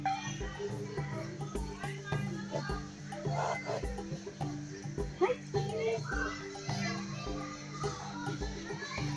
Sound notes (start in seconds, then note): 2.1 meerkats growl; 6.0 birds chirping, people chattering